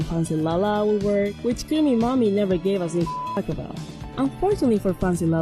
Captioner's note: beep